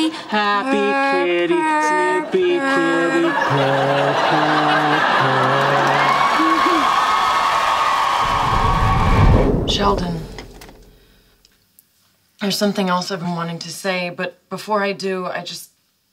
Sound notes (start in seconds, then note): 6.2 audience cheering; 8.2 air whooshing